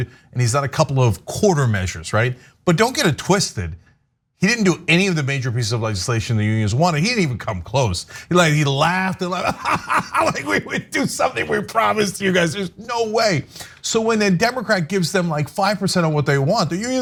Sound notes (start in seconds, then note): 9.2 laugh